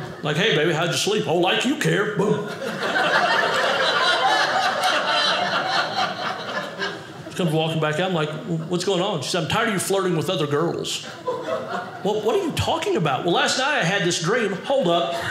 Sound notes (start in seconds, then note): 2.2 audience laughing; 14.9 audience laughing